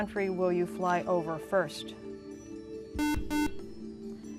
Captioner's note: buzzer